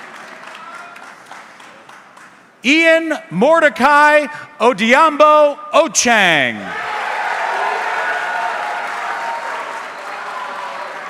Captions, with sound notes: Ian Mordecai Odiabo Ochieng. (audience cheering)